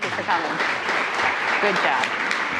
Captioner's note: attendees applauding